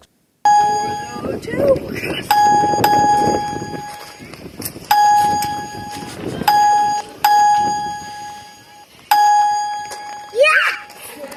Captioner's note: chime heard for each swing